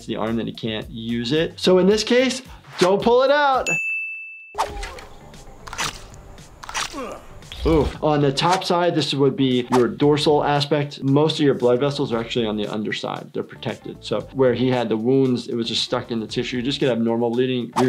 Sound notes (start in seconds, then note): 3.6 dings; 6.4 slicing